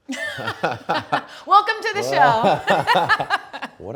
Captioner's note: both laughing